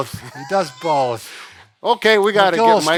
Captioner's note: both laughs